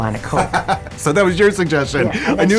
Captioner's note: laughs